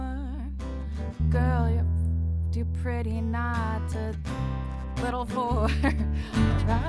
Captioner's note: laughs at nearly swallowing her own tongue